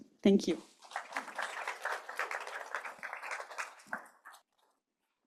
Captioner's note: applause